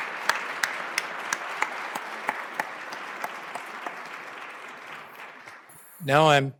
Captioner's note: applause